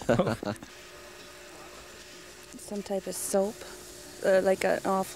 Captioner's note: laughing